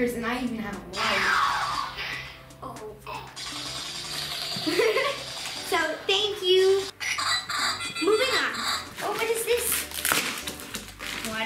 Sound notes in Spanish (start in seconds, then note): 2.2 fuegos de láser; 3.6 disparos de armas de fuego; 4.6 Risas